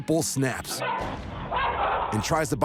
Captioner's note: dogs barking